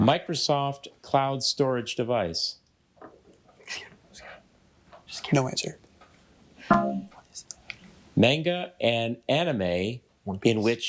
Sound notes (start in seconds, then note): 3.7 group chatters off mic